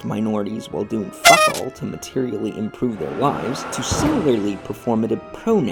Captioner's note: clown horn; distant sound of car hitting pedestrian